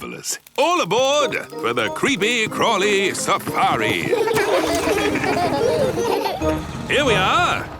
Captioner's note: laughing